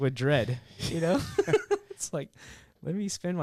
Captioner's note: laughs